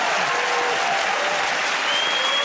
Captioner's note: cheers and applause